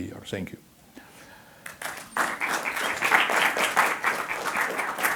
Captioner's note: applause